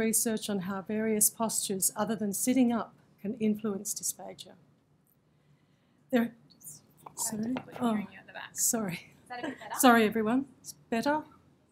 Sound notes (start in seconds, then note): 7.0 adjusts microphone